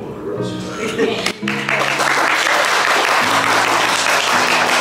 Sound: group applauds

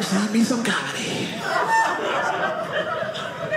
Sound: audience laughing

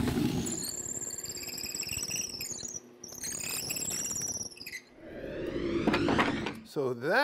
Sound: drill press screeching; wood whooshing

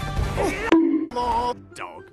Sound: bonk

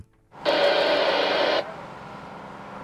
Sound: radio static

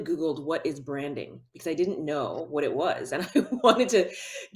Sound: chuckles

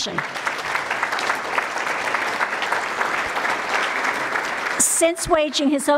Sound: applause

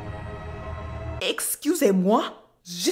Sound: in French

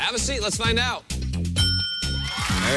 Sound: ding

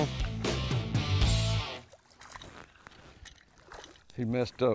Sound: water splashes

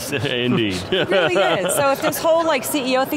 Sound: laughing

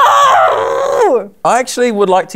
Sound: frustrated scream drowns out speech

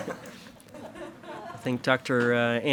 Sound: attendees laugh

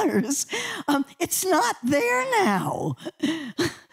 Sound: laughter

